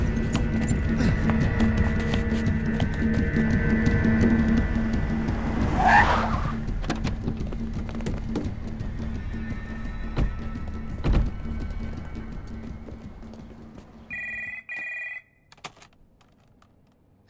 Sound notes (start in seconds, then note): 5.8 Brakes squeal; 14.1 Phone rings